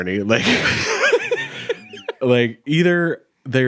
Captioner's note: chuckling